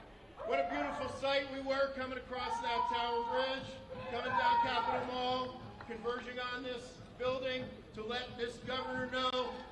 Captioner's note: cheers and applause